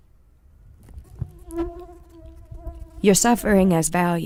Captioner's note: mosquito buzzing